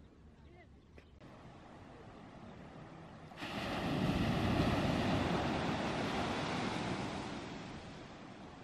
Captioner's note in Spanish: sonido ambiente con las olas